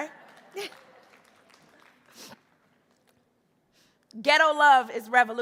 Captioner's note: audience applauding